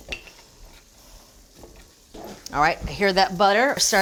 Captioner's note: butter sizzling